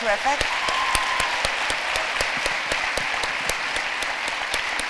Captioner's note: applause